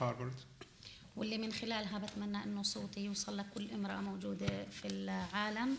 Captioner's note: speaking arabic